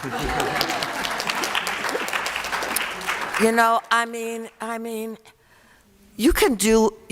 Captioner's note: applause